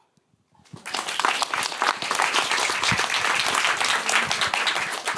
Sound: applause

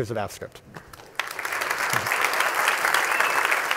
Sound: applause

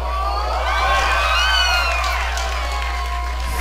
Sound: cheers!

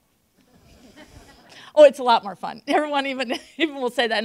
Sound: laughter

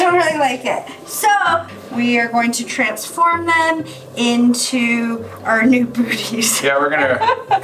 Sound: laughing

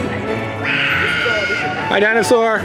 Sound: dinosaur roar

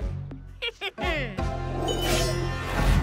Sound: snickers

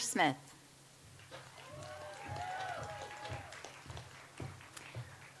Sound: audience applauds

